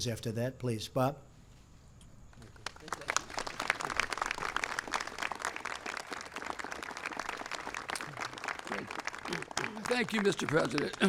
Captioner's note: applause